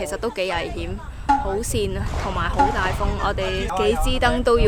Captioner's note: very Windy